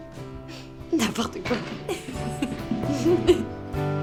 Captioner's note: laughing